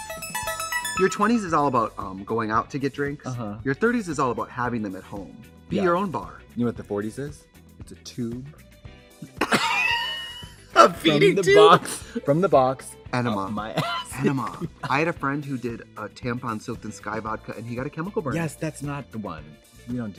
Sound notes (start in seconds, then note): 0.0 bright electronic music; 9.4 Trixie and Katya laugh